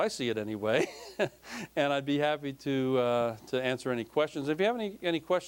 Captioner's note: laughing